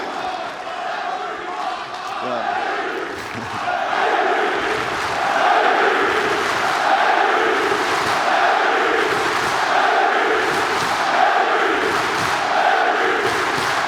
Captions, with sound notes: AND LASTLY -- [ CHEERS AND APPLAUSE ] LASTLY, I WANT TO THANK A FEW PEOPLE.